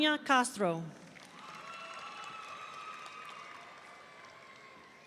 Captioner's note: audience cheering